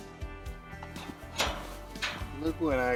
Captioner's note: gate clacking